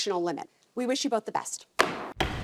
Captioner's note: gavel bangs